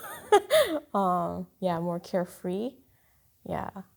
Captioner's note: chuckling